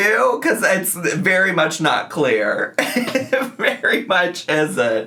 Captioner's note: laughs